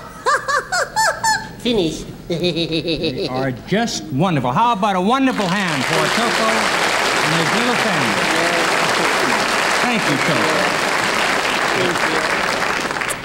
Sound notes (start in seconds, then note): 2.2 laughs; 8.4 audience applauds